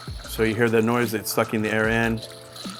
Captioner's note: none